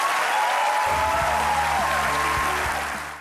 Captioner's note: clapping